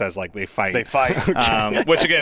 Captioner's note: laughs